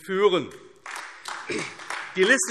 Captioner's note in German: Beifall AfD